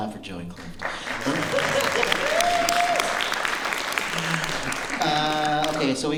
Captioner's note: applause